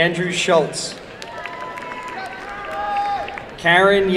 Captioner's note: applause and cheering